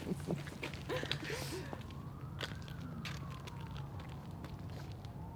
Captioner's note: Evelyn and Grace laughing; sirens blaring